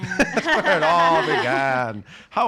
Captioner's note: laughing